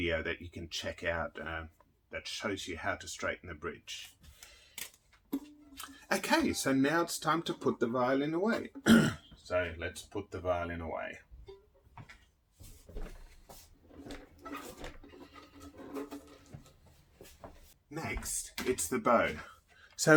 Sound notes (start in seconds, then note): 11.4 footsteps shuffling; 13.9 strings creaking; 17.5 footsteps shuffling